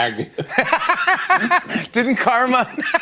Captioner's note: laughs